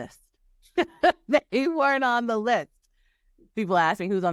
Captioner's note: laughing